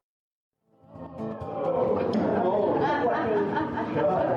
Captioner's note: country music; people cheering and laughing